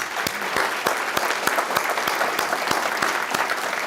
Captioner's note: applause